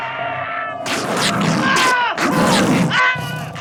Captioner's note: growling; screaming